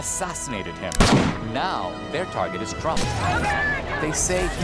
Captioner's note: protestors chanting